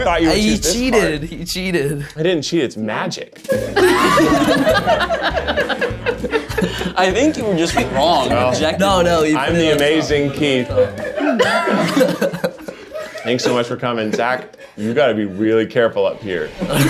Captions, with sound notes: - You cheated. - He cheated. - I didn't cheat, it's magic. (audience laughs) - I think you were just wrong, objectively. - No, no, he put it on top. - I'm the Amazing Keith. (audience laughs) - Thanks so much for coming. Zach, you've gotta be really careful up here.